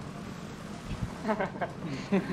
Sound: laguhs

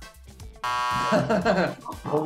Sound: beep; laughter

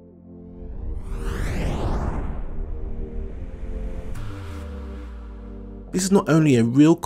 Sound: whooshing; suspenseful electronic music

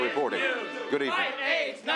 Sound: chanting

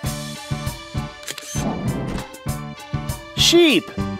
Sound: SFX: Camera Shutter

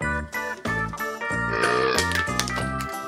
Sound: belch

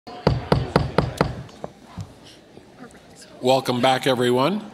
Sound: gavel pounding

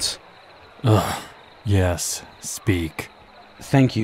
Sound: groan

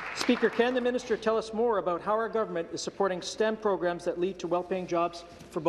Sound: applause

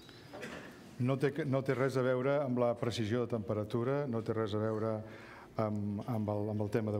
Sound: speaking catalan

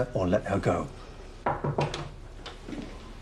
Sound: knock on door

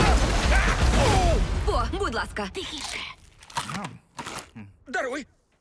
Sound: grunts, groans; munching

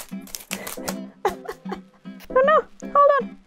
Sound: laugh

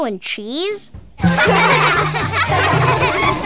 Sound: laughing

